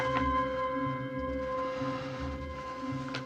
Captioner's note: inhales